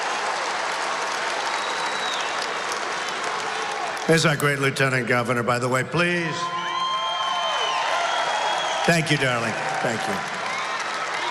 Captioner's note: applause